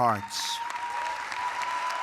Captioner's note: cheering and applause